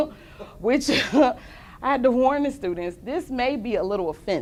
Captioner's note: laughter